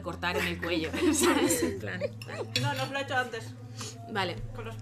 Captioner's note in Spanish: risas